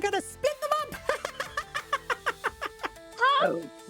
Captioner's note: laughter